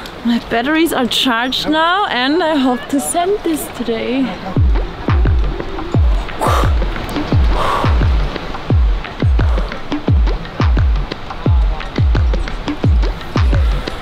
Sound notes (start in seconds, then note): 4.6 upbeat electronic music; 6.2 exhaling